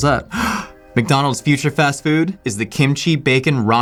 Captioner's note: gasps